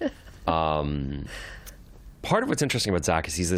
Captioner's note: laughter